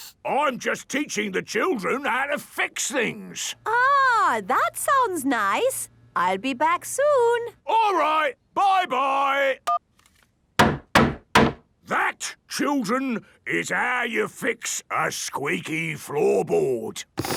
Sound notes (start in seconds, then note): 10.6 hammering